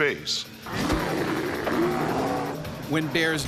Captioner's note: bear growling; voiceover